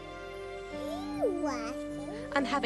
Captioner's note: baby cooing